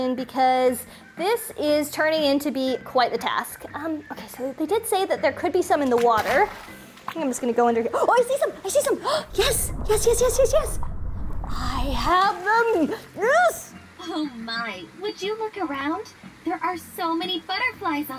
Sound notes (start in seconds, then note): 5.9 splashing